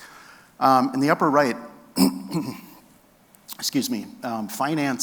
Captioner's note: speaker clear throat